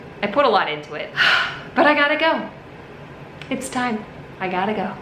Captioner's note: sighs